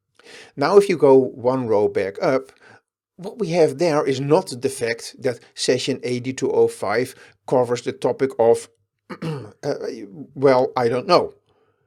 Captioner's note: ahem